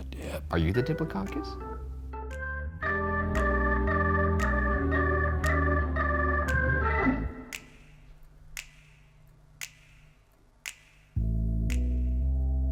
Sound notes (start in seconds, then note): 2.2 upbeat music; 7.6 finger clicks